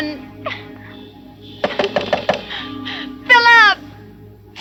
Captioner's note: knocking on door